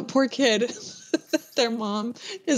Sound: laughter

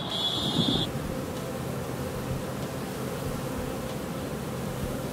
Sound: car alarm sounds; bees buzzing

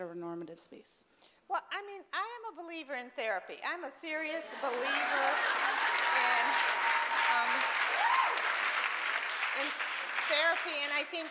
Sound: loud applause

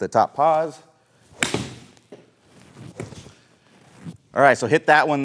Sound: hits golf ball

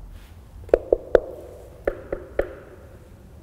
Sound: hands knocking

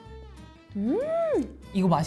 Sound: MMmmmmm

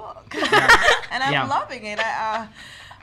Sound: laughs

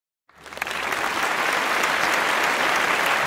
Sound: applause

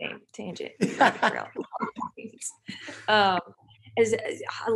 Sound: laughing

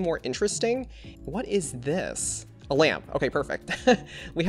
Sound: laughs

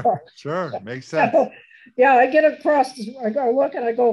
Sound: laughs

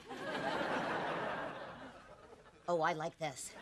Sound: audience laughing

